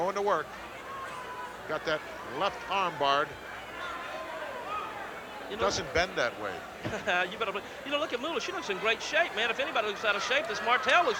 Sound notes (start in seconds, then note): 7.2 laughs